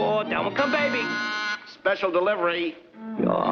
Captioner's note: doorbell buzzing